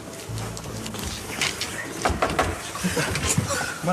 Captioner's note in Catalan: cops al vidre